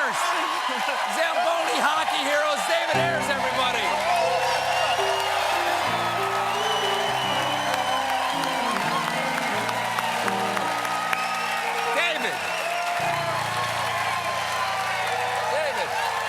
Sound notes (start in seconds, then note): 7.4 cheers and applause; 7.4 piano riff